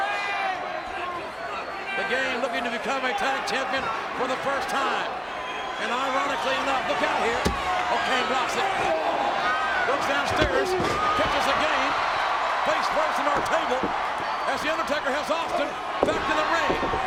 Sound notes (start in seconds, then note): 8.9 applause